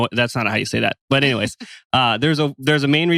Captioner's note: laughs